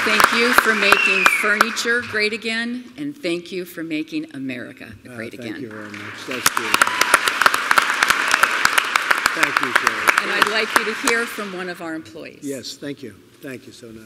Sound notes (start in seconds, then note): 7.9 applause